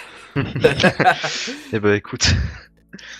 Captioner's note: laughing